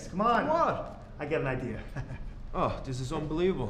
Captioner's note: laughs